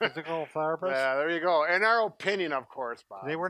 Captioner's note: laughs